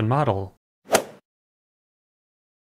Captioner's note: swoosh